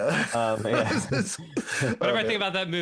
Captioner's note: laughing